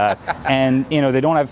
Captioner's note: laughs